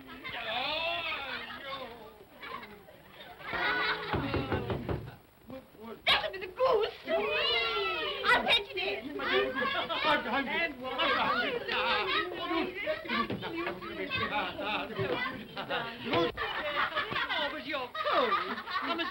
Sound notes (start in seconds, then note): 2.3 children laugh; 4.1 knocking on door; 6.6 vocal sounds of delight